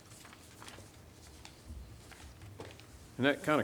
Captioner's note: paper shuffling